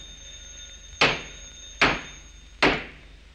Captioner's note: banging on door